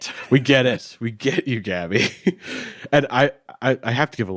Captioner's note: chuckles